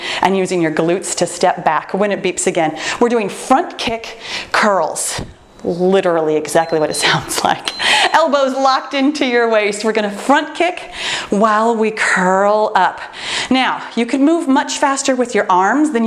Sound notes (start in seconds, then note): 6.4 timer beeps